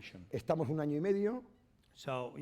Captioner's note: speaking spanish